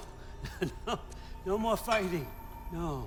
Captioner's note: laugh